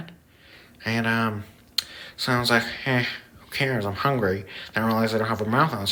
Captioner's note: lip smack